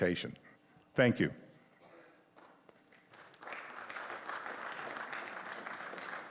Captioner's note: applause